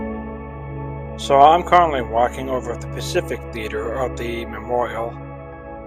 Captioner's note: voiceover